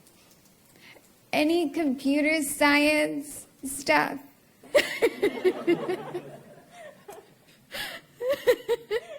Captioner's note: laughter